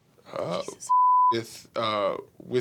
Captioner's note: beep